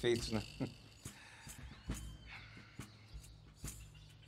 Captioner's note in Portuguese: Suspiro